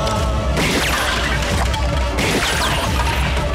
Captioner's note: Gunshot